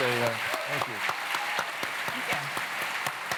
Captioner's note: applause